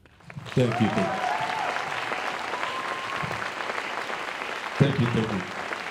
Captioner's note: applause